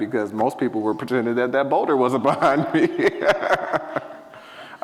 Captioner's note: laughs